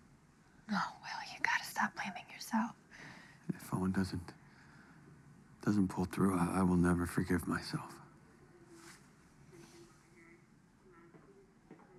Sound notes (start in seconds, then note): none